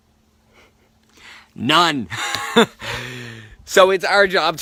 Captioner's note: laughs